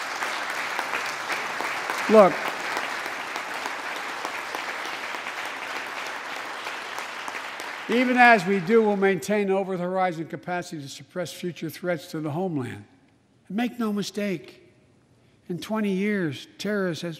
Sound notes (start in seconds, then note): 2.9 applause